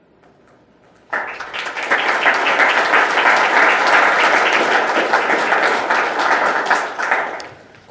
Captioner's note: audience applause